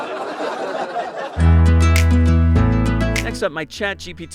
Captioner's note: laughs